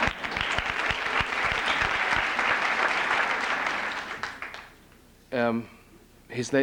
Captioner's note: applause